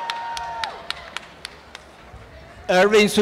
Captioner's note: applause and cheering